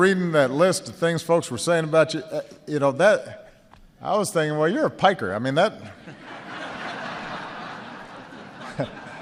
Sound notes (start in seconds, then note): 4.1 laughter